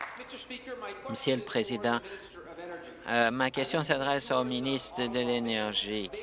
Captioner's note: applause